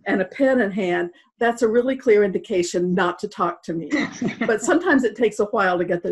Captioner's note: laughter